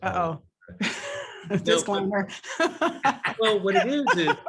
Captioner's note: laugh